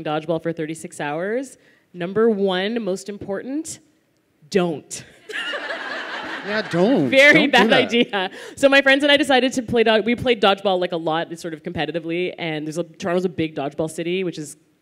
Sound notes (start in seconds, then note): 5.2 laughter